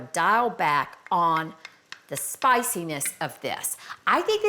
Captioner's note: utensil tapping